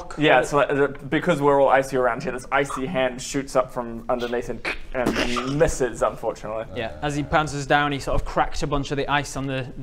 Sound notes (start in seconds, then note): 4.7 crrk